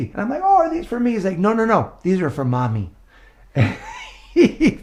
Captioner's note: laughing